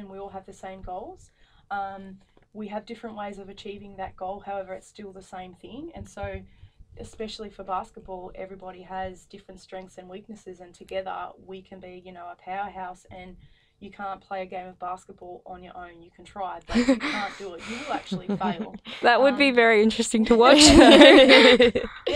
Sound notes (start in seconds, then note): 16.7 laughing; 20.3 laughing